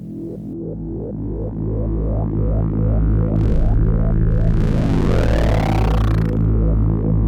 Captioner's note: drone